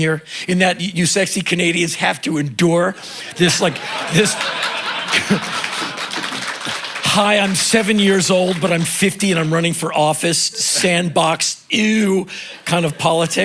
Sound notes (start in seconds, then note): 2.9 laughter and applause